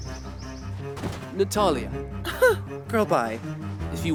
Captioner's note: scoffs